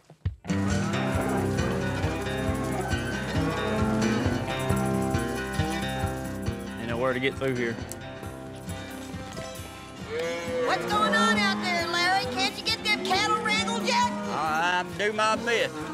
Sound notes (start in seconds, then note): 0.6 cows moo